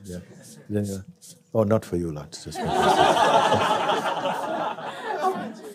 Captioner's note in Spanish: risas